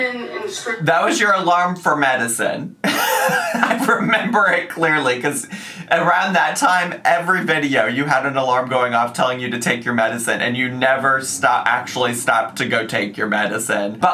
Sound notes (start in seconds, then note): 2.8 laughs